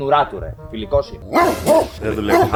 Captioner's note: barking